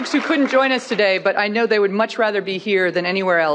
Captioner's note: applause